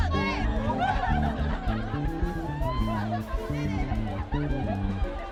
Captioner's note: students cheering and laughing